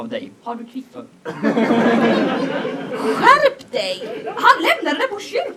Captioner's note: audience laughs